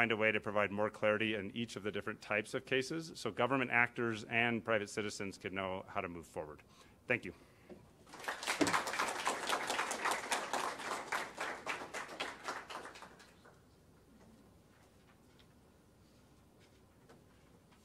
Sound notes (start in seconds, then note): 12.7 applause